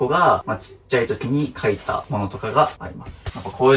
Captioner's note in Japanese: none